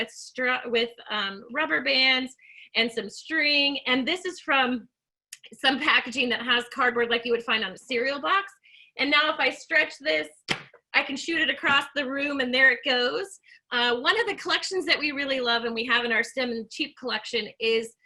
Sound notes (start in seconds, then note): 10.4 rubber band snapping